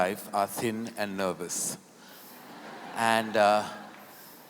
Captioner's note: laughter